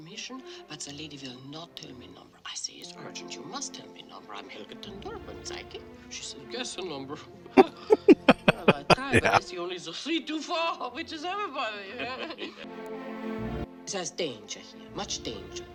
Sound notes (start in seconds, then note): 7.6 laughing